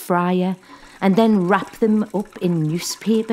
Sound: chips fry

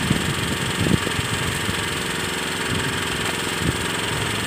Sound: engine sound continues

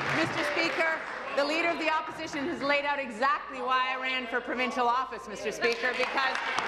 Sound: applause

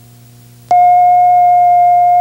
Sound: alarm beeping

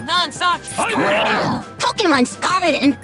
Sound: Pokemon Noises

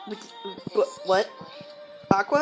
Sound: brain malfunction noises

